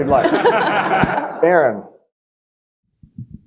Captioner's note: audience laughing